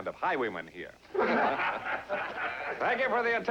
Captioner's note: men Laughing